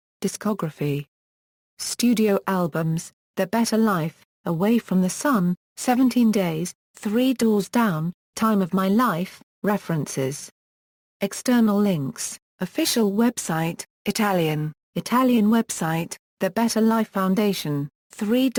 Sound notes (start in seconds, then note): 13.7 Italian